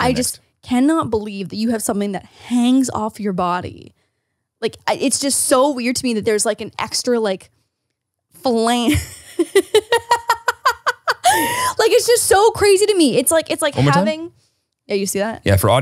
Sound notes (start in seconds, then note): 8.8 laughs